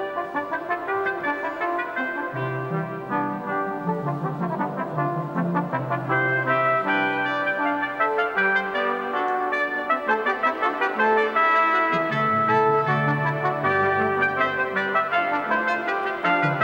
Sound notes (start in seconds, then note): none